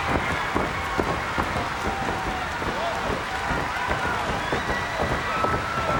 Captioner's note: crowd clapping rhythmically